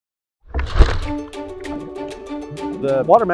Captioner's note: water whooshing; upbeat music